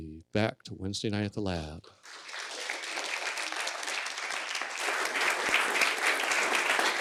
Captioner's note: applause